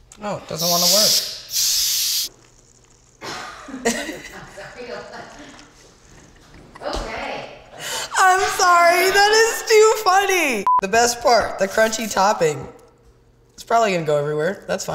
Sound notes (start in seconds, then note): 3.3 people laughing; 10.6 electronic beep